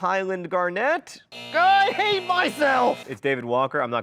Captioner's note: buzzer beeps; groans